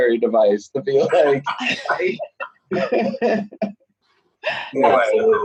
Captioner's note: laughing